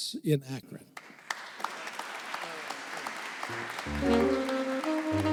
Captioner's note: audience clapping